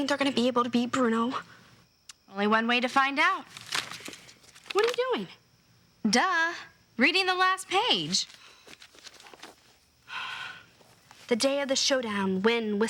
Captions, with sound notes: Do you really think they're gonna be able to beat Bruno? Only one way to find out. What are you doing? Duh, reading the last page. [sighs] "The day of the showdown,